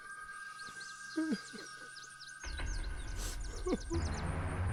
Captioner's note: quiet sobbing